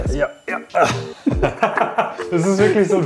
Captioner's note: laughs